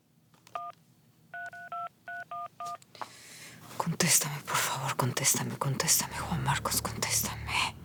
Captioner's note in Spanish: Ruido al marcar